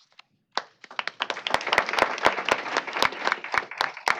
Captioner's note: applause